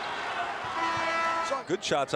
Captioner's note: buzzer rings